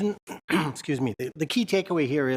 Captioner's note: clears throat